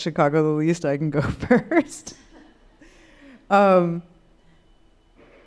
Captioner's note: laughing